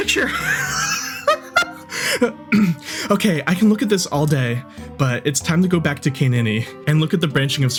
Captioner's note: laughing